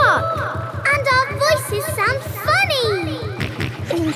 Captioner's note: echoes; kids laughing; snorts